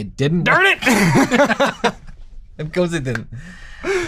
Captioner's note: laughter